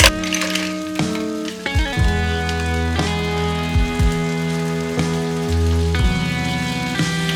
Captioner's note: sizzling intensifies